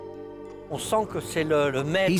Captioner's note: speaking French